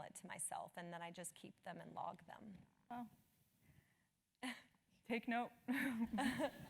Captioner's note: laugh